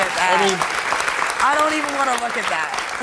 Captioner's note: crowd applauding